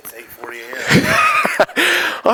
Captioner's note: laughter